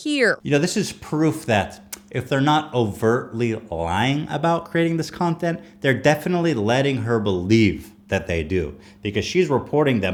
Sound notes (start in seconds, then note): none